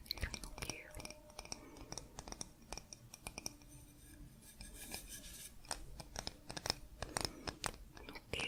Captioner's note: tapping on stone